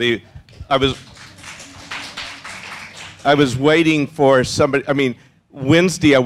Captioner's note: applause